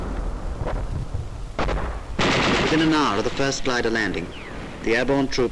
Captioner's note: voiceover